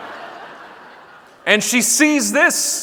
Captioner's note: audience laughing